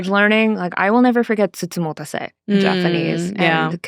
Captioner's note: speaking Japanese